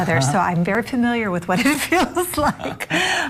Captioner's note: laughing